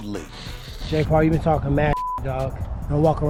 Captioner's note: beep